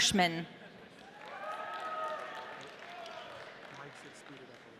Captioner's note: audience cheering